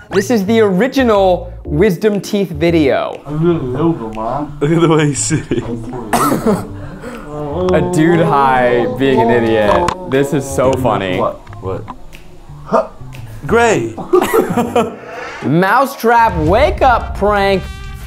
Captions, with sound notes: This is the original wisdom teeth video - I love the way you're sitting - A dude high. Being an idiot. This is so funny. - What? - Gray! (laughing) - Mouse Trap Wake Up Prank.